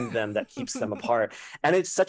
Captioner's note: laughter